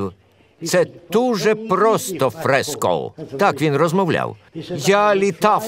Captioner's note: German accent